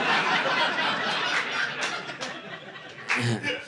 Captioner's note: audience laughing